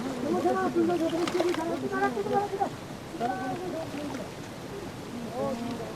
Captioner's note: speaking foreign language